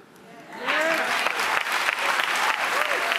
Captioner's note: crowd; audience cheers